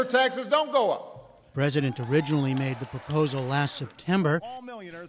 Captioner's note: cheering and applause